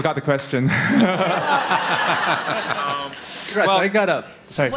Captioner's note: audience Laughter